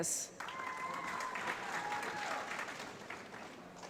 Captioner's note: applause